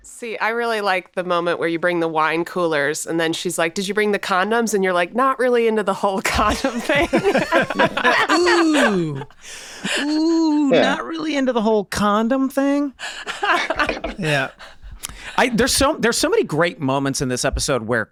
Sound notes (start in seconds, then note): 6.2 Megan, Charlie laughing; 13.0 laughing